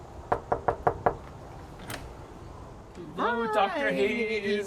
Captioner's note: loud knocking